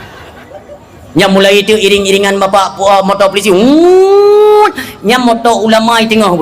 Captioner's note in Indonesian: berteriak